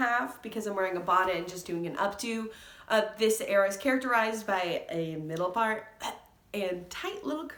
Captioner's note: gag